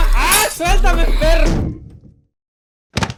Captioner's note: bonk